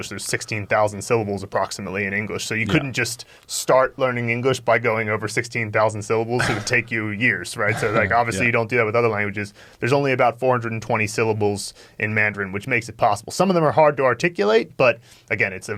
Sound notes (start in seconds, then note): 7.6 sniggering